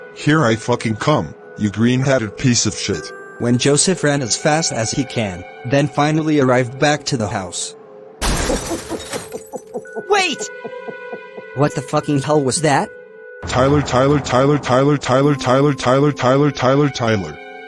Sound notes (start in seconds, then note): 8.2 heavy thuds and crashes, Joseph laughs like mad